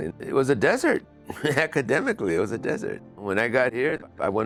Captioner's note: chuckles